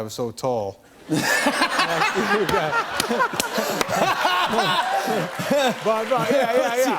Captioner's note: laughter